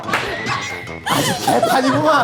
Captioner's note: laughing